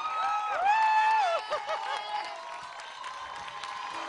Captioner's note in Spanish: aplausos